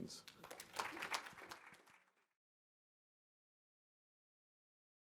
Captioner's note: audience applause